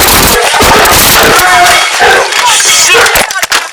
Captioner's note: gunshot; yelling